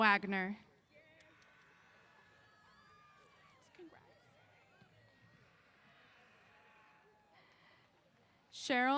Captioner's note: cheers